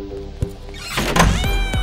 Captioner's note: Door closing